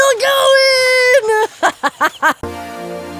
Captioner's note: victorious laughter